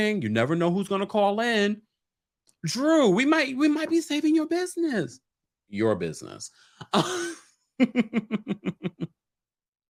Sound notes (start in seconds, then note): 7.8 laughing